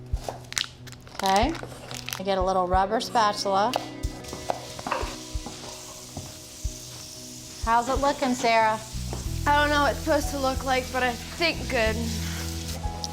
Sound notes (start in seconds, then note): 3.5 sizzling